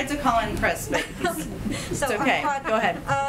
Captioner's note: laughter